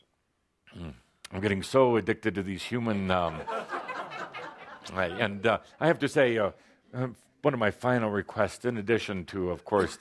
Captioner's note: laughter